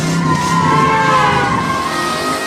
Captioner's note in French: Klaxon